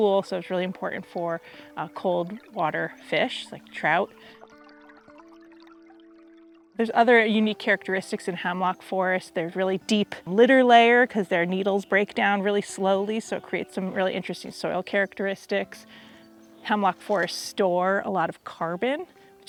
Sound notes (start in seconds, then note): 4.6 water splashing